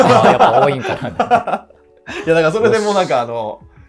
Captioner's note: laughing